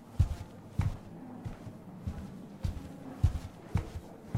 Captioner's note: walking